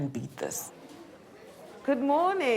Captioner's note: indistinct chatter